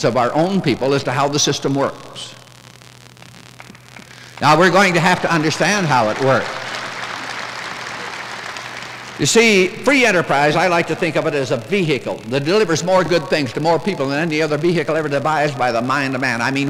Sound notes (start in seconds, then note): 3.5 smattering of applause; 6.7 applause